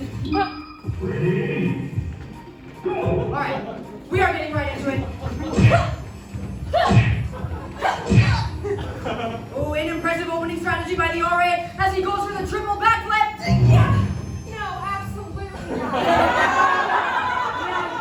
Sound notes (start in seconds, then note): 5.3 punch SFX; 13.5 error SFX